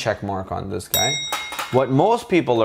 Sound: bell dinging

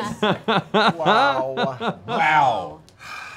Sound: laughter

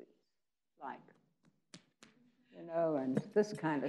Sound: hands slapping to face

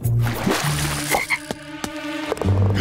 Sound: croaking

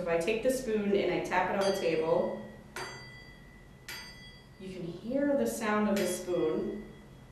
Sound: spoon makes a chiming sound

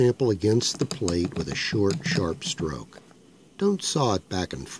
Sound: grinding noise

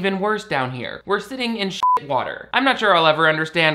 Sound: beep

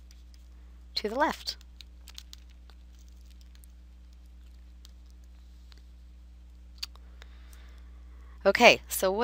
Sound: silence

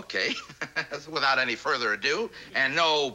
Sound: laughter

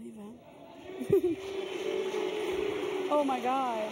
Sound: audience jeering

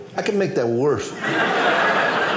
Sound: audience laughing

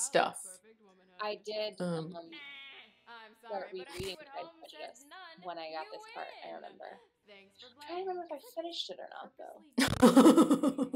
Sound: laughter

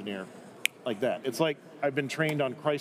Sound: clicking fingers

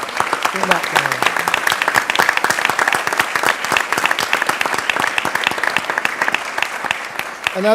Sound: applause

